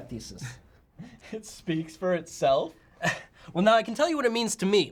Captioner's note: laughs